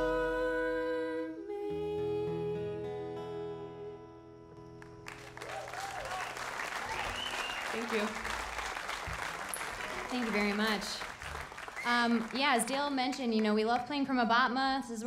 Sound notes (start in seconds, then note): 5.0 audience applauding